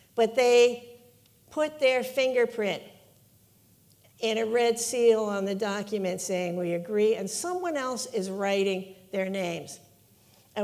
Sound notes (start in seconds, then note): none